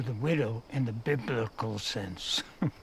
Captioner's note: chuckles